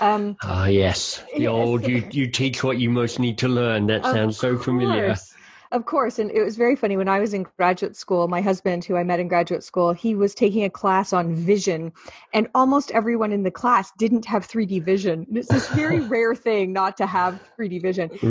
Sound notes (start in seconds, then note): 0.0 laughing; 15.5 laughing